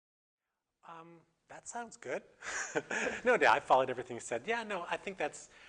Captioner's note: laughter